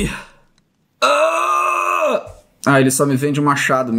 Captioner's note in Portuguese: resmunga